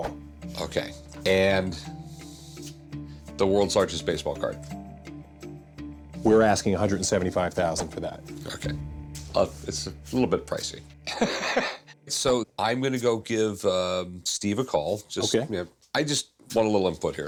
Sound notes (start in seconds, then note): 11.1 laughs